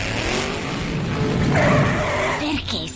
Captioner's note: tires screeching